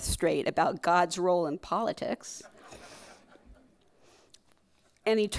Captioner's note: crowd laughing